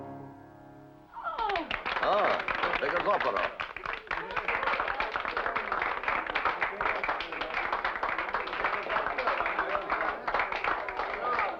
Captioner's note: applause